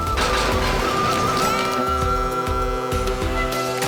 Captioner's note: ship horn blows